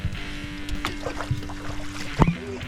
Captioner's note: water splashing